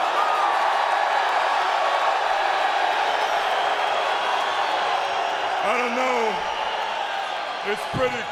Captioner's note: applause